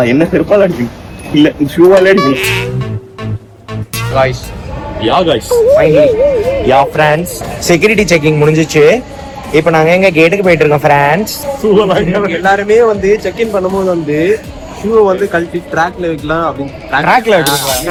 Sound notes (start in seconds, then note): 7.3 sarcastically